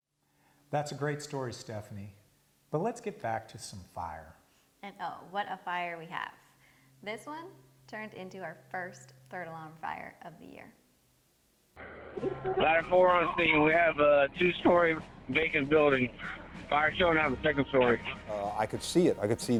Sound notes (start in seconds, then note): 12.3 radio traffic - Ladder 4